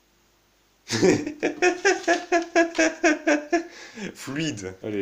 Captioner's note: laughs